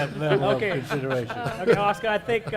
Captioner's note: laughter